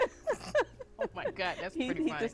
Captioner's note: both laughing